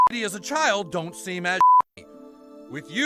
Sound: beep

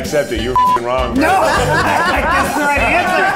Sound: beep; all laughing

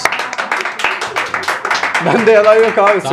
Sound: applause

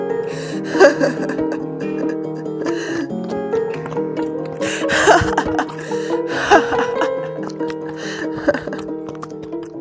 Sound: velk laughs

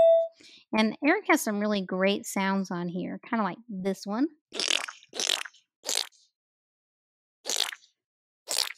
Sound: splurt sounds play

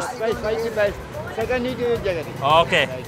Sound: speaking foreign language

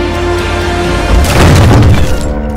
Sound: door opens

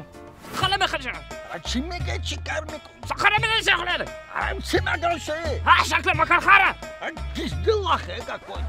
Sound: speaks gibberish

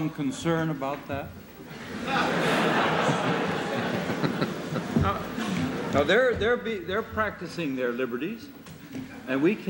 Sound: laughter

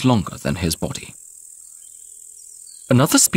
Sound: sounds of nature

